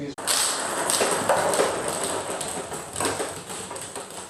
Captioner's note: balls ping pong hitting